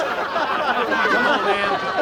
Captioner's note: laughter